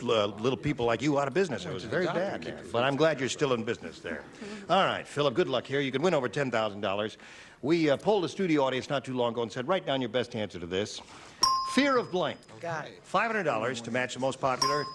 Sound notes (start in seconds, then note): 12.3 beeping